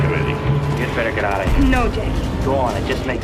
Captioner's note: impact sound